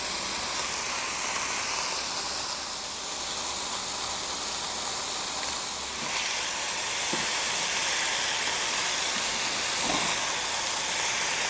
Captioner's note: sizzling